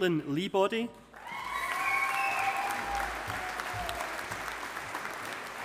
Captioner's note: audience applauding